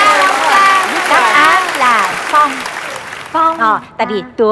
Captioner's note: wind